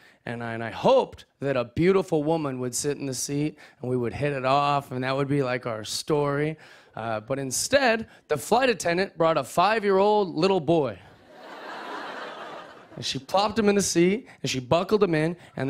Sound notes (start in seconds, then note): 11.2 laughter